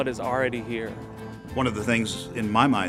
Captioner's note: voiceover